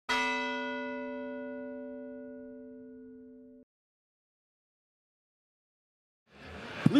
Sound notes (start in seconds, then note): 0.1 bell ringing